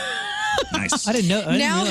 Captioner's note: laughs